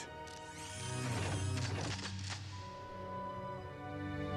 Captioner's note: weapons buzz and click